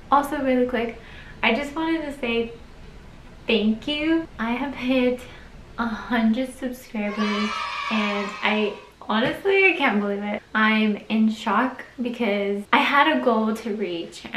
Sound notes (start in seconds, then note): 7.0 children cheering